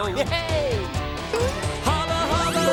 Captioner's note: dinging